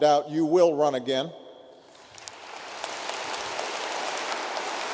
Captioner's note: applause